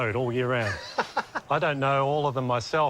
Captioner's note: laughs